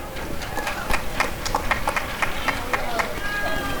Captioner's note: applause and cheering